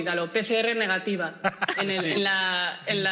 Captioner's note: laughter